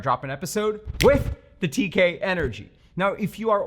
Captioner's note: snaps fingers